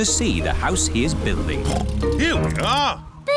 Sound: oinks

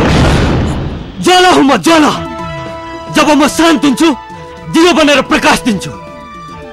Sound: flame

